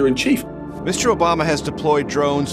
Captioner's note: soundbite of archived recording